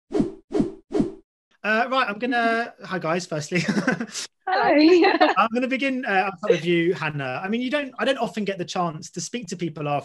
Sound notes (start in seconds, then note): 0.9 swishing; 4.5 laughs